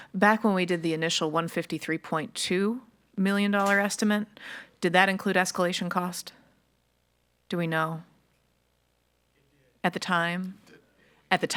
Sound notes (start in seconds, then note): none